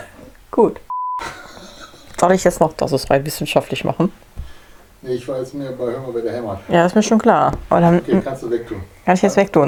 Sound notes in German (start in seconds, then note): 4.1 Aus dem Off; 7.9 Aus dem Off